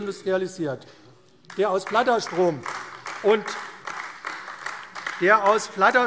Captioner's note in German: Beifall AfD